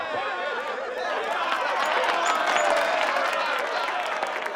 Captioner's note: laughter and applause